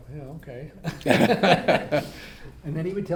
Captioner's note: all laugh